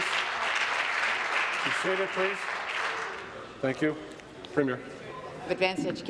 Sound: applause

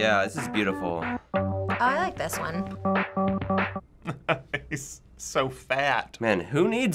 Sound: chuckles

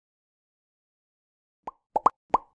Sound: popping Sound

